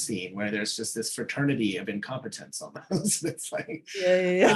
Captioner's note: chuckling; laughing